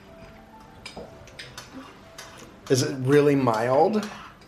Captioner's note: silverware clacking